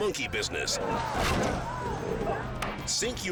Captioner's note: scooter crashes